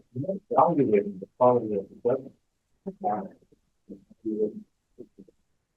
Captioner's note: presenter speaking faintly off mic